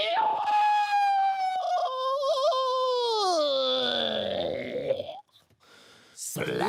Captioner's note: screaming and gargling; sharp inhale